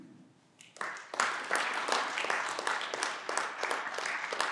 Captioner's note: clapping